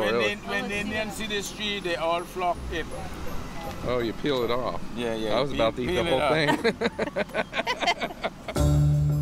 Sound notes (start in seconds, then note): 6.3 laughter